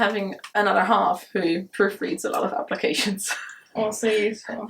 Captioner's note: chuckles